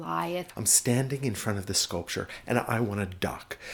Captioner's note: voiceover